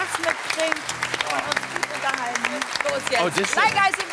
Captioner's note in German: Applaus